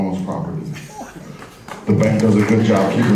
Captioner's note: barely any applause